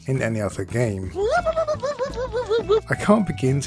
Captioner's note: wooping intensifies